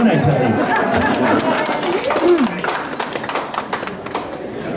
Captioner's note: applause